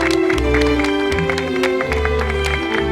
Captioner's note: Aplausos